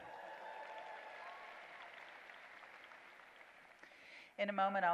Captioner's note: applause